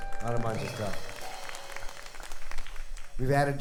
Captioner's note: audience applauding